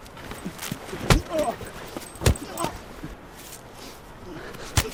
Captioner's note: Cole groaning